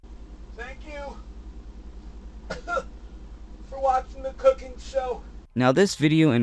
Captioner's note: coughs